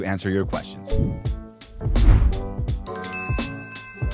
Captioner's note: air whooshing; bell dinging